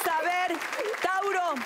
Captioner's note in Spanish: Aplausos